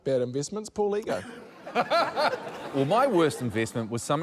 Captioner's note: laughter